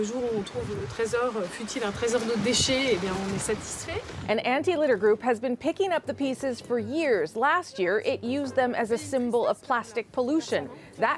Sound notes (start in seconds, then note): 4.2 speaking french